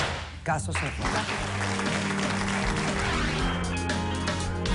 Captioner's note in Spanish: Aplausos